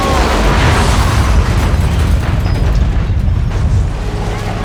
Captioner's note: woman screams